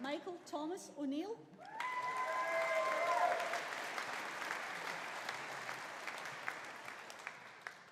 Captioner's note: audience cheering; audience applauding